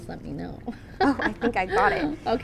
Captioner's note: chuckles